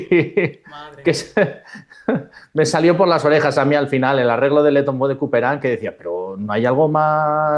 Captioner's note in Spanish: risas